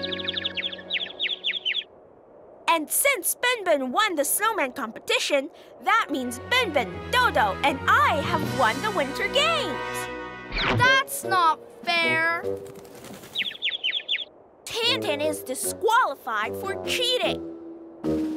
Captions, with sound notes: (bird tweeting) - And since Ben Ben won the snowman competition, that means Ben Ben, Dodo, and I have won the Winter Games. - That's not fair. (bird tweeting) - Tan Tan is disqualified for cheating.